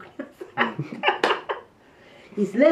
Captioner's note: chuckles